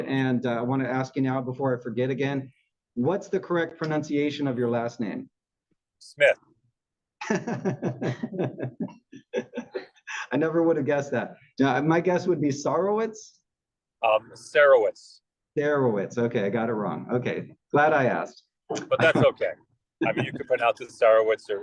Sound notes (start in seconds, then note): 9.2 laugh